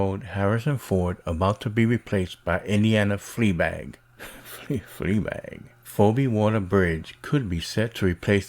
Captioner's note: snicker